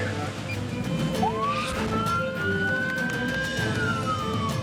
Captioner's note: sirens